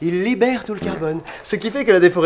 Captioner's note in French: bruit de pet